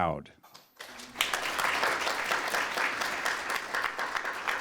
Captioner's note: applause